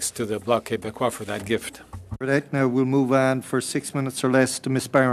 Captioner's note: speaking French